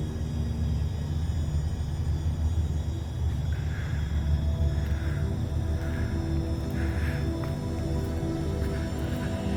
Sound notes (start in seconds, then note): 3.2 person breathing softly